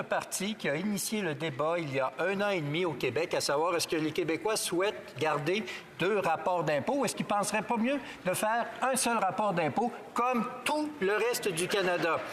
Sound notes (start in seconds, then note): 2.2 speaking French; 10.4 speaking french